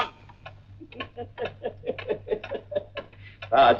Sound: clock ticking; laughs

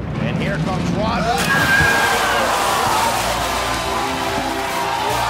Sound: splashing

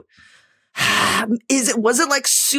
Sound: sighs sharply

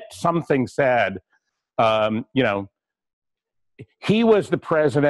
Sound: pause

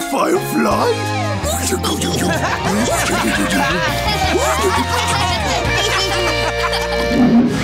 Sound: laughing

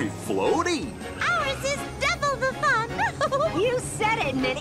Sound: giggles

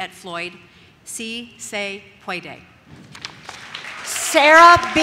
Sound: audience cheers

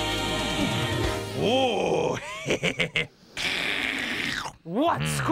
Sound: slurps

